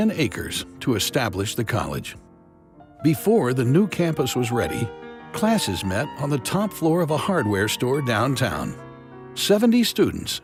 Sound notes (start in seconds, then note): none